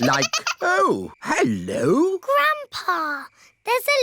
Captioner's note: giggling